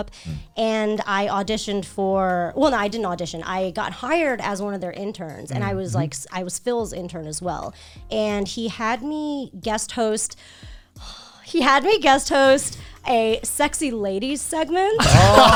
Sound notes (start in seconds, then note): 10.8 sighs